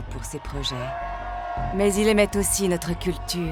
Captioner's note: crowd cheering